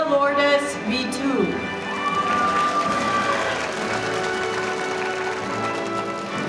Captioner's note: audience applauding